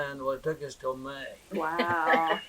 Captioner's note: laughter